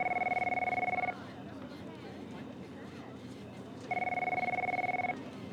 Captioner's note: telephone ringing